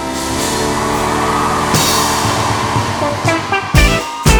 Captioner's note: crowd roars